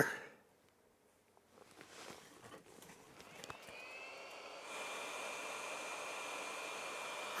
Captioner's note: drilling